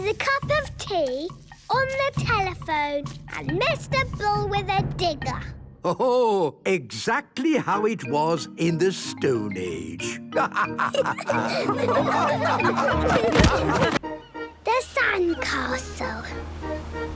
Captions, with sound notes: with a cup of tea on the telephone and Mr. Bull with a digger. - Ho, ho! Exactly how it was in the stone age! - (all laughing)